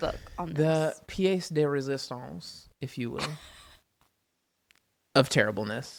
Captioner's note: laughs